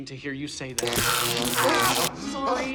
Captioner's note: zapping, screaming